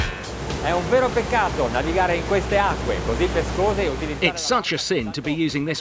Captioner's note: speaking in foreign language